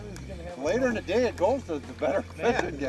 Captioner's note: voiceover